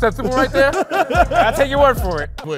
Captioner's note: laughs